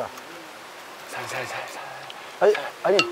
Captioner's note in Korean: 조심스럽게